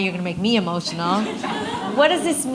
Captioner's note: audience laughs